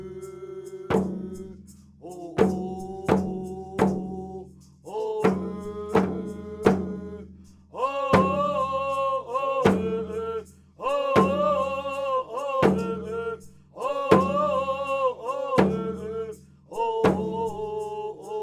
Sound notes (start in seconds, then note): 0.2 chanting continues; 11.5 chanting continues